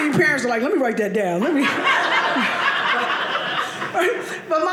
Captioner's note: audience laughing